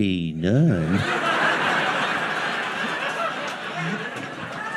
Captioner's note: audience laughing